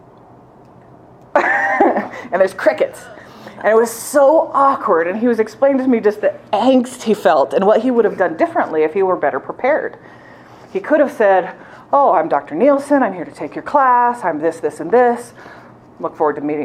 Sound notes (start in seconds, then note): 1.3 laughs